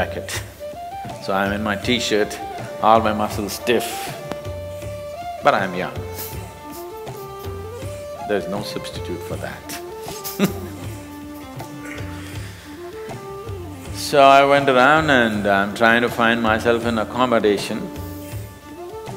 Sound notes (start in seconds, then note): 12.4 laughs